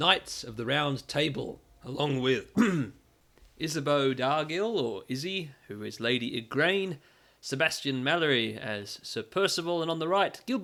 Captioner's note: clears throat